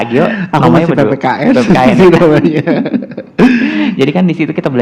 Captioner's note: laugh